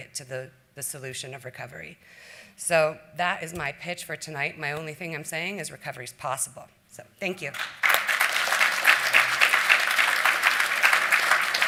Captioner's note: applause